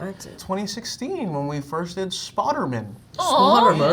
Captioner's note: mispronouncing